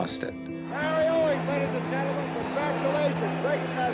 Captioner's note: announcer's voice